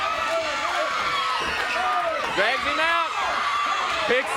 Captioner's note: crowd cheering